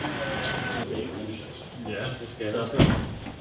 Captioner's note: small chat